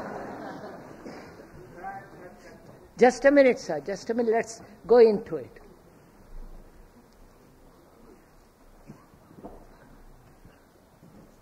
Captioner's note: laughter